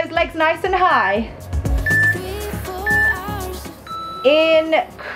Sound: timer beeping

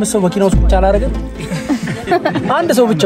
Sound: laughter

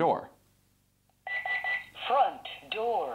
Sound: beeping

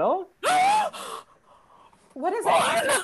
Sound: gasps

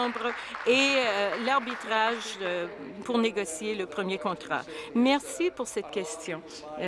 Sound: applause

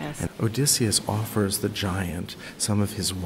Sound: voiceover

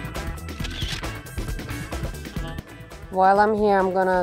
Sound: camera shutter whirring

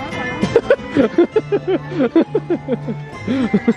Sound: laughs

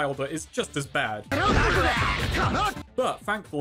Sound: angry shouting

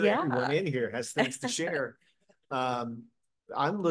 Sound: laughter

